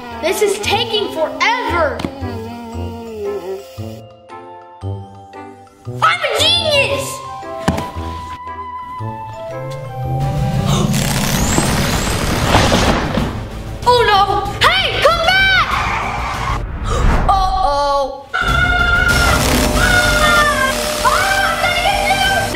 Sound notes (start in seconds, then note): 2.4 vacuum whirring quietly; 3.8 soft music; 10.7 loud whirring; 18.5 shouting; 21.3 loud whirring